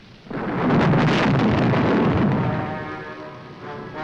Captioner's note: thunder roaring; dramatic music